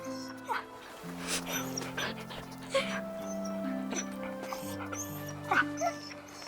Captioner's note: Buck whimpering; Ryan crying